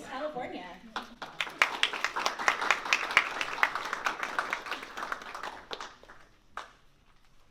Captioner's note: applause